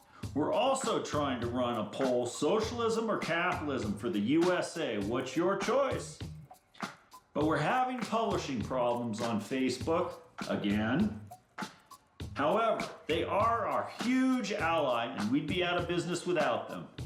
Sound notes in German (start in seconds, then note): none